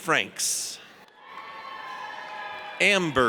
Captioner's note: audience cheers